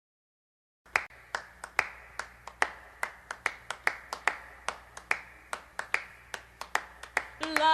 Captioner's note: clapping